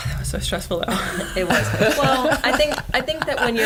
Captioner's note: laughter